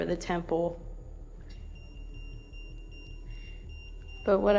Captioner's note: EMF beeping